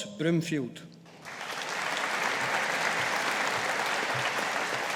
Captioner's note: audience applauding